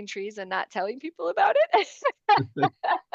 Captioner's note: laughter